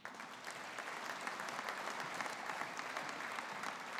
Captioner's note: audience applauding